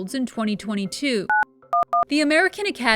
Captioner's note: cell phone beeping